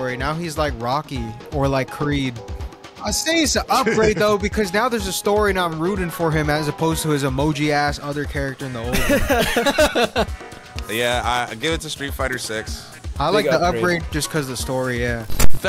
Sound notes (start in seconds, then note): 8.9 group laughing